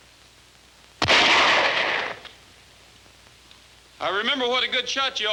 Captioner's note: gun firing